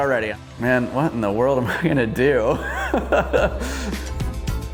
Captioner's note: laughs; upbeat music